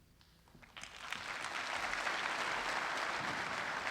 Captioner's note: applause